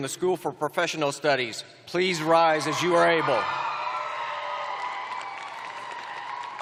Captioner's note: cheering